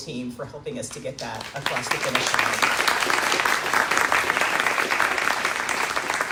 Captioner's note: crowd Cheering